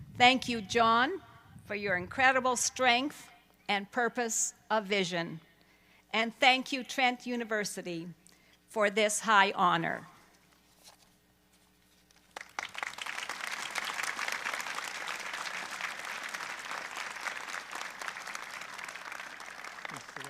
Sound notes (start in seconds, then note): 12.1 applause